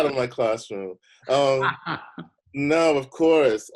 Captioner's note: laughing